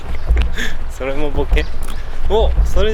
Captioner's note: laughs